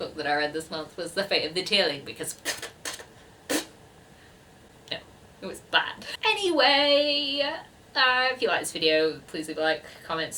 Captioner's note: fake spitting noises